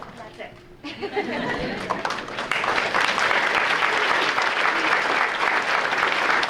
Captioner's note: audience applauding; laughs; audience laughs and claps